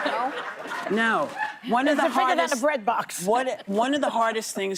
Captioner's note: laughter